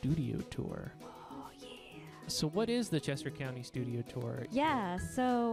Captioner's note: whispering